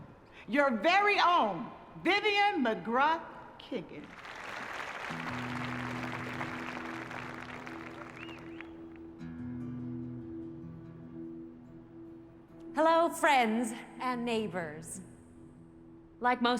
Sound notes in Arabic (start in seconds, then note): 4.0 تصفيق